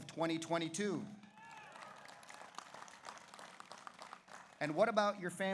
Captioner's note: audience cheers; audience applauds